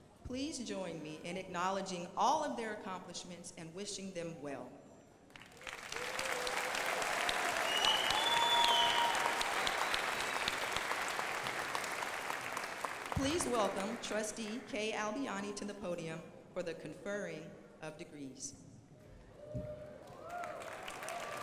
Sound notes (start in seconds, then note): 5.3 crowd applauding; 18.3 crowd applauding